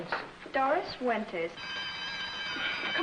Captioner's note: school bell rings